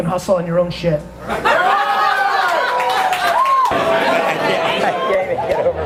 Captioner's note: crowd cheers, applauds